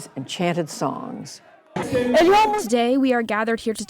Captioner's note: through translator